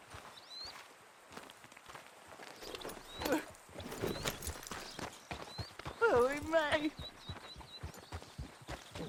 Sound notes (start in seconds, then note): 3.7 sobs